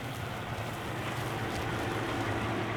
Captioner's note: wind blowing